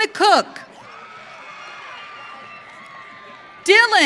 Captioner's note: audience cheering